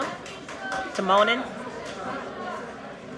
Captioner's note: cheers and applause